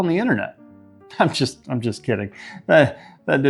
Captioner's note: chuckling